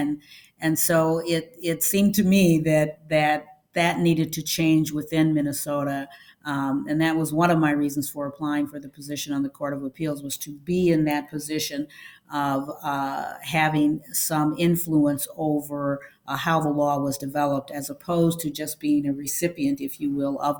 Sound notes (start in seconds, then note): none